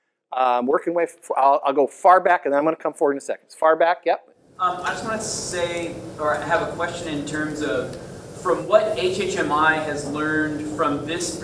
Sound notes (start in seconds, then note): 4.7 voiceover